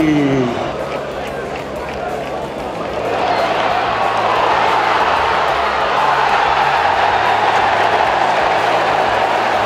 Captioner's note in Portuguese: torcida celebrando; sons da torcida